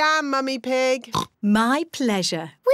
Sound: oinks

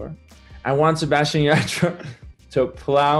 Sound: laughs

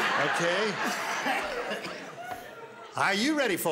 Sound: laughter

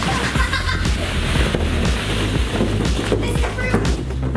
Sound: laughing

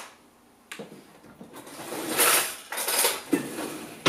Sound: sound of utensil drawer opening

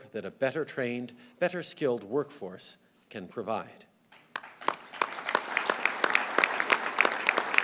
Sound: applause

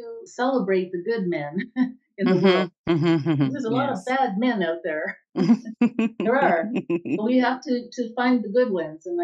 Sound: chuckles

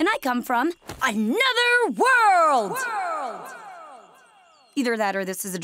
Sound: echoing

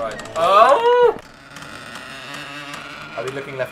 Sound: wails; door creaks

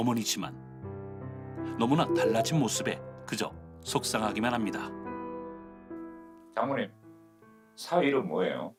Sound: voiceover

